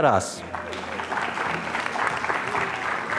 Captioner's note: applause